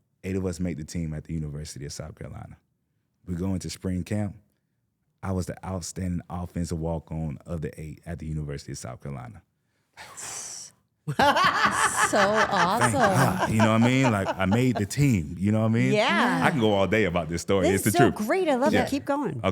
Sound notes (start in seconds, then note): 9.9 exhales sharply; 11.1 laughing